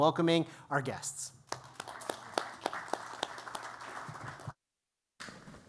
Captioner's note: applause